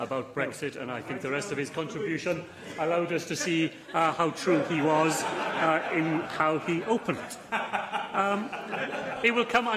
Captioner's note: laughter